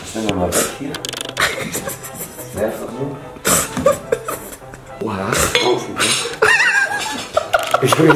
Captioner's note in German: Gelächter